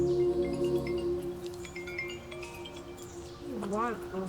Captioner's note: phone chimes